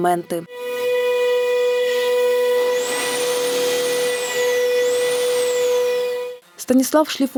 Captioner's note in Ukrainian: працює верстат